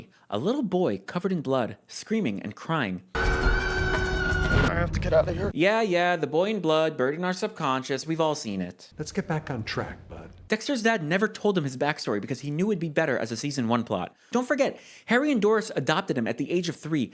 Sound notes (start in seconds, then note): 3.0 yelling